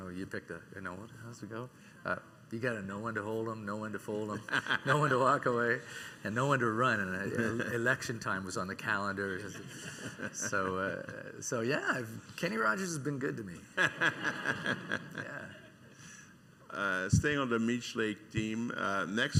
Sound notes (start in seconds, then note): 13.8 laughing